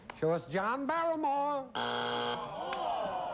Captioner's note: buzzer